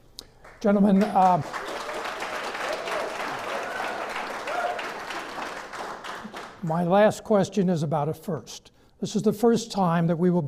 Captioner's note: clapping